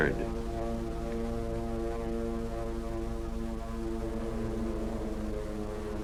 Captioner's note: planes flying overhead